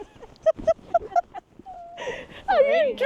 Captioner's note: laughing